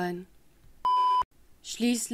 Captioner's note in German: Piep-Ton